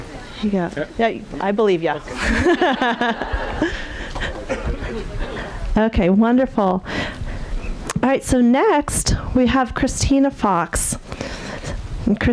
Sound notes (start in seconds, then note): 1.8 audience laughing